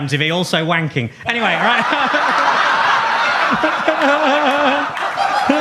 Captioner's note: audience laughs; laughs